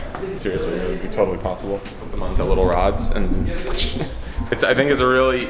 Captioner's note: slap sound